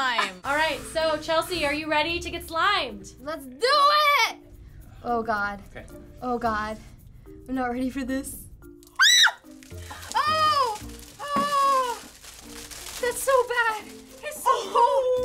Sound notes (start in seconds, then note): 8.9 screams